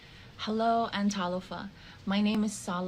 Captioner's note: speaking in the Samoan language